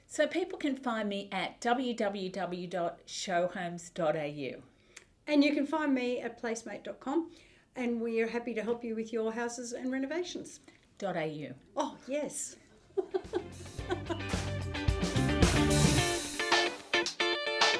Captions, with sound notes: - So people can find me at www.showhomes.au. - And you can find me at placemmate.com. And we are happy to help you with your houses and renovations. - Dot AU. - Oh yes. (laughs) (upbeat instrumental music)